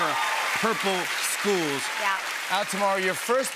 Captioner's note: cheers and applause